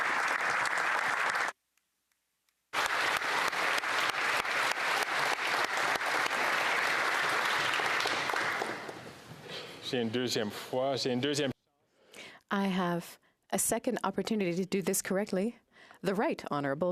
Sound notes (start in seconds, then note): 0.0 applause